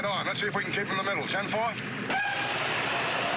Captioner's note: tires squling